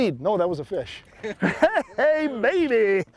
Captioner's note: both men laugh